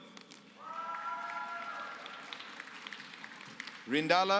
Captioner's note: applause